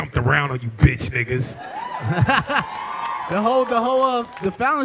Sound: crowd cheers

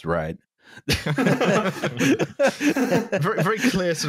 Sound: laughter

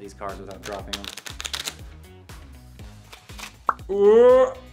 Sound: upbeat music; cards shuffling

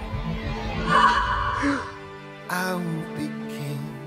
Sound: yells

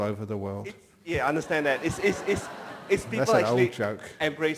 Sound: laughter

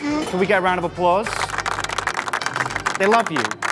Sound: applause

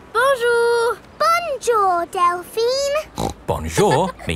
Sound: snorts

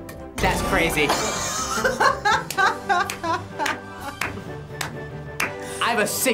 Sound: laughs; clapping

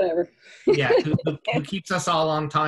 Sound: laughing

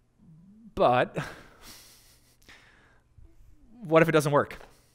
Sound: pastor: Laughter

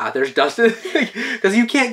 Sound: laughing

